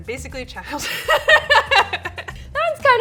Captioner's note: laughs